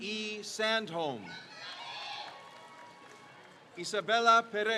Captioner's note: crowd cheers